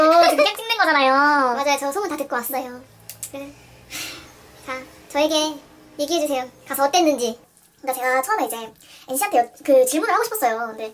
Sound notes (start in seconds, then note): 3.4 sigh of bitterness